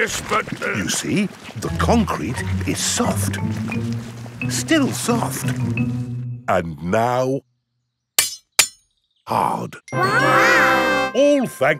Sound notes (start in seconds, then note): 0.8 stutters; 8.2 shovel clanks